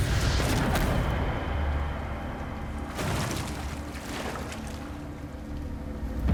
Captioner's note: gunshot